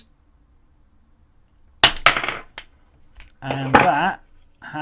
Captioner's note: pop